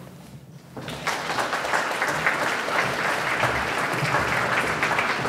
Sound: audience clapping

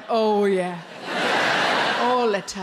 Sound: crowd laugh

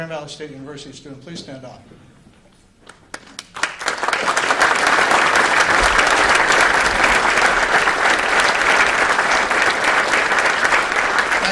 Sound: applause

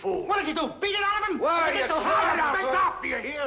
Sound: all shouting

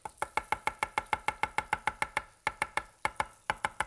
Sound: knife tapping

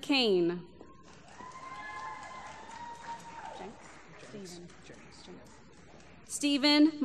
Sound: applause

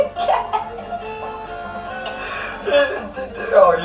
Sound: risus lacrimantes

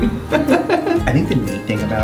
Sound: laughs

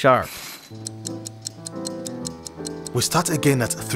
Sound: ticking watch

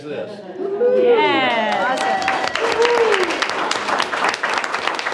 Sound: group cheers and applauds

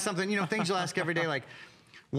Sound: laughter

